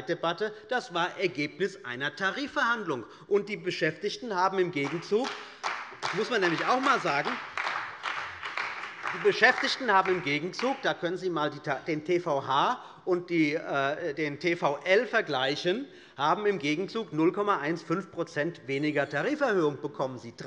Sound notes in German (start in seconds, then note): 4.7 Beifall bei der CDU und dem BÜNDNIS 90/DIE GRÜNEN